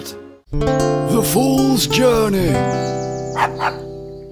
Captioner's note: dog barks